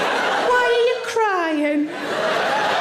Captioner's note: audience laughing